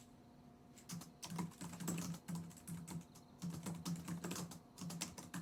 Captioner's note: typing